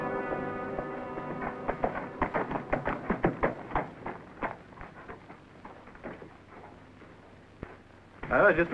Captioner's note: horse hooves clomping